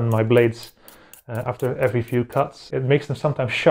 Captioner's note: sound of blades being sharpened